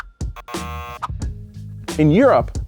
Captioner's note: buzzer ringing